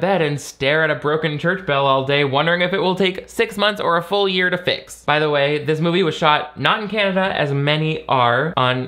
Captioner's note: none